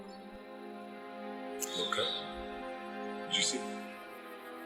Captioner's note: bird screeches